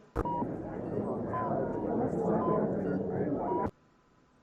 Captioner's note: vague hospital sounds